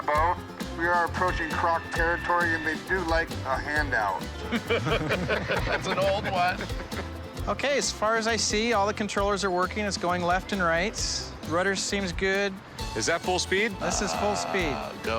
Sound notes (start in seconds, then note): 4.4 laughter